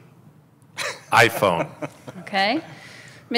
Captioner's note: laughs